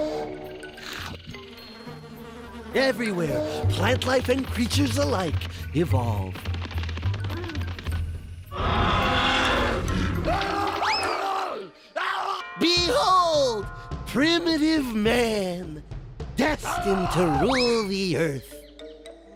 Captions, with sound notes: (slurps tongue) (buzzing) EVERYWHERE, PLANT LIFE AND CREATURES ALIKE EVOLVE. (roaring) AAH! BEHOLD, PRIMITIVE MAN, DESTINED TO RULE THE EARTH.